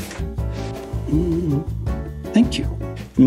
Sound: humming

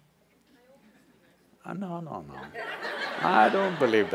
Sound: laughter

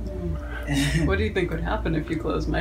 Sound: laughing

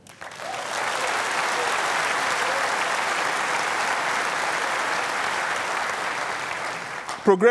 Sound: applause

